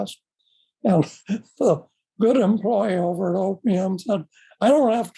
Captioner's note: chuckles